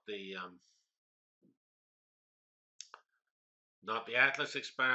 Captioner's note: pause